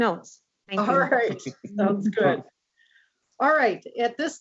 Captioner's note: laughing